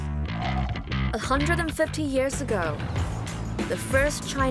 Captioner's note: laughs